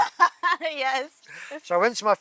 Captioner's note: laughing